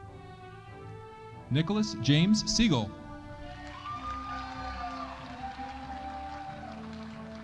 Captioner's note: audience applauding